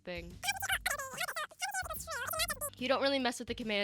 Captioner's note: sped up chatter